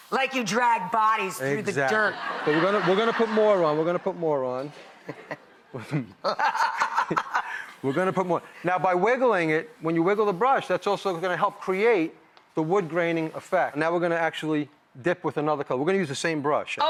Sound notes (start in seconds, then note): 6.2 laughs